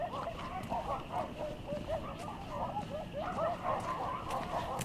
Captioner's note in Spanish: pasos